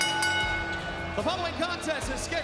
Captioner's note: bell ringing